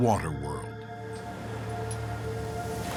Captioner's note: water crashing